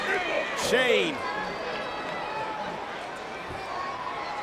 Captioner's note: crowd chattering